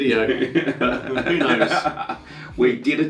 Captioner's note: laughing